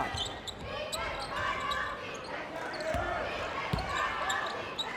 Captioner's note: cheerleaders chants